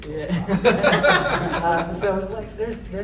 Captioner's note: audience laughing